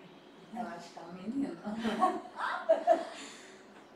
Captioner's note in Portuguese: risos